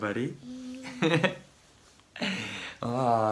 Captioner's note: laughs